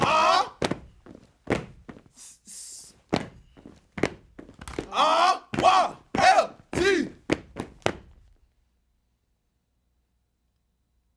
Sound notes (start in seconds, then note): 2.2 hissing